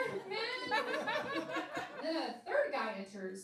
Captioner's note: laughing